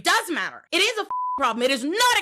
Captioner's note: beep